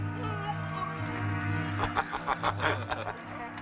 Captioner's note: vomiting; laughing